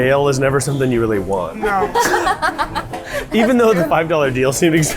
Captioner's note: laughing